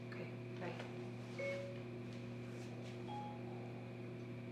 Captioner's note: phone chimes